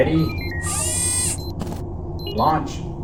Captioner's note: device whirring